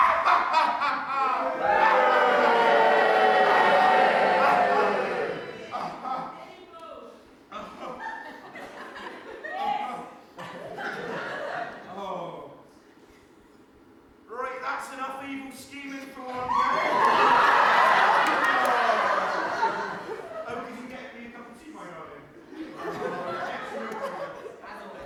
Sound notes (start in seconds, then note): 0.0 maniacal laughter slowly dying down as audience boo, someone shouts KISS again; 14.2 in a Bristolian accent; 16.6 audience laughter